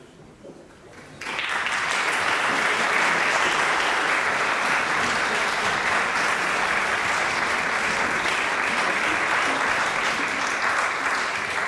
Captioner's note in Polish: oklaski